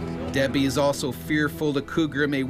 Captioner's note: voiceover